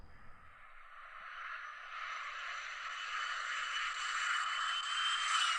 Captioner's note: plane whines